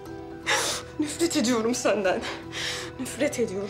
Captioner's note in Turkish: Ağlıyor